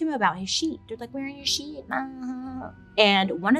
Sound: lightly groans

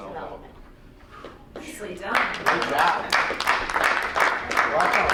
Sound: clapping

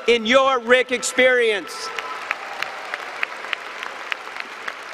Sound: applause and cheering

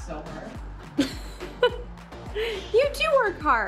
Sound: laughing

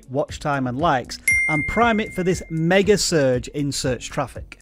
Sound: bell dings

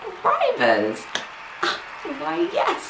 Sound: crowd cheering

